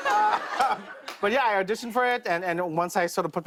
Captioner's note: laughter